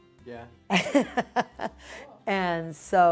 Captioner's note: laughing